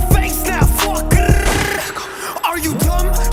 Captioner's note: 𝐆𝐮𝐧𝐬𝐡𝐨𝐭💥